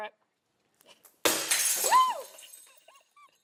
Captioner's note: glass shattering; laughing